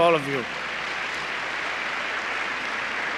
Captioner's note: applause